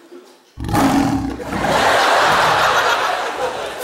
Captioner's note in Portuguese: rugido